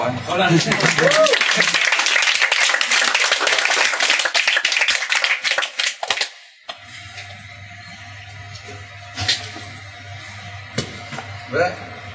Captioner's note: applause